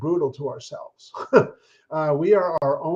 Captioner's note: chuckles